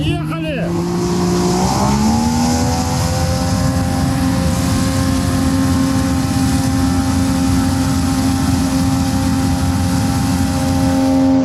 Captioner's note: engine sounds